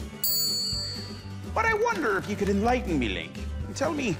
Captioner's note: gold tooth clinks